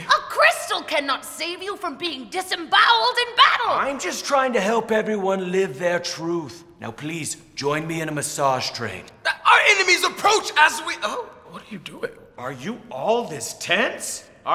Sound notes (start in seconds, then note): none